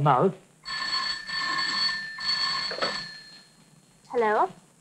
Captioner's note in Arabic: رنين الهاتف